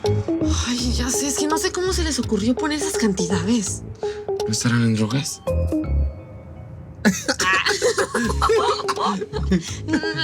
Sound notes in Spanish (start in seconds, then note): 7.0 Risas